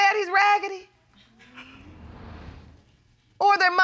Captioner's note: audience members chuckle